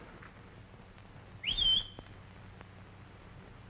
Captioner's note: whistle